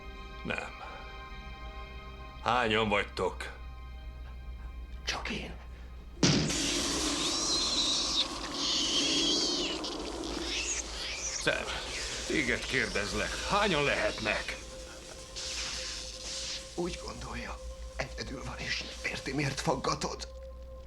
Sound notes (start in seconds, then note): 6.8 electricity crackling; 8.6 loud squealing